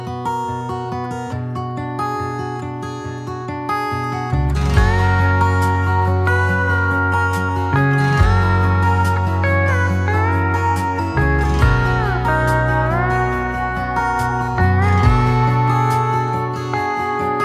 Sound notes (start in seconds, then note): none